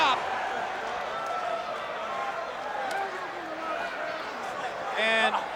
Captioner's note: applause